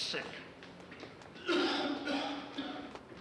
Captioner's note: coughing